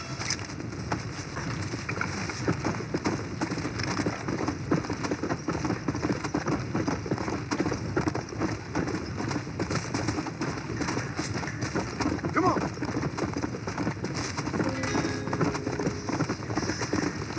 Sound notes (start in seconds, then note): 2.2 sounds of galloping horse; 14.6 mexico music from the original game